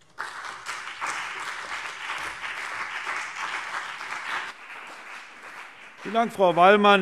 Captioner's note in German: Beifall CDU und BÜNDNIS 90/DIE GRÜNEN